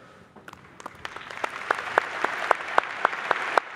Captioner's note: applause